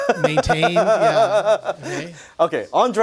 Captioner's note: laughing